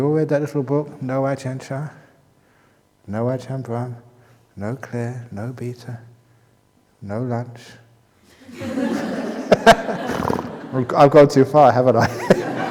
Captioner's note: laughter